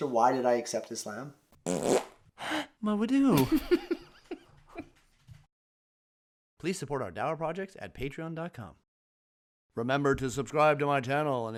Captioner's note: broken wind